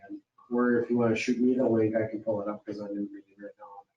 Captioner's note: speaking faintly